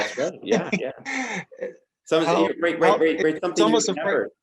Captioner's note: laughs